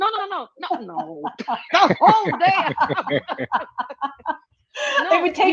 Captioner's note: laughing